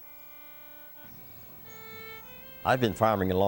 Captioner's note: birds chirping